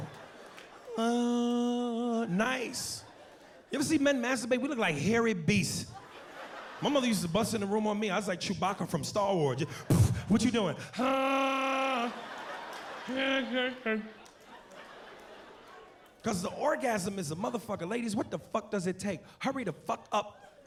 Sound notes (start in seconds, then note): 11.0 groans; 12.9 mumbles